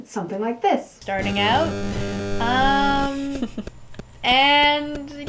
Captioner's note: strange, loud, digital clicking noises; strange, loud clicking noises